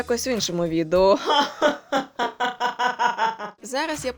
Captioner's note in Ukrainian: убогий злодійський сміх